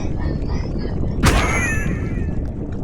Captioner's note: bonk!